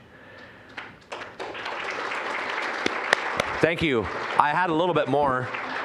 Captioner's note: applause